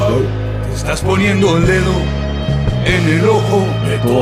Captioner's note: non-english speech